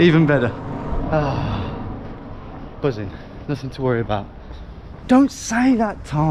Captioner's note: sighs